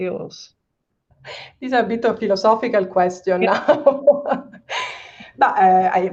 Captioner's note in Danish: laughs